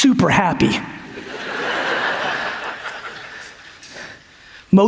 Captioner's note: audience laughs